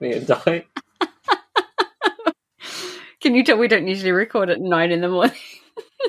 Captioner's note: laughs